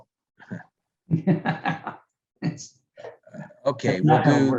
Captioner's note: laughs